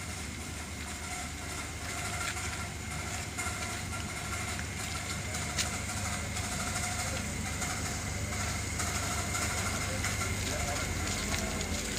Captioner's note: machine noise